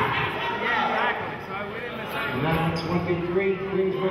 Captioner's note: yelling